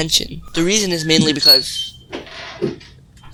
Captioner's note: door opens